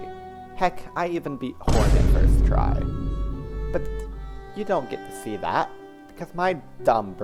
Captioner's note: boom